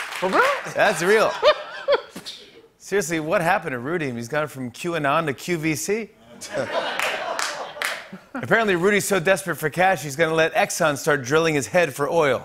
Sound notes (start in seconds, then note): 6.5 laughter and applause